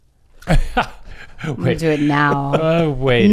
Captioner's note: laughs